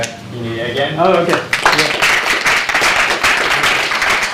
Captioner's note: applause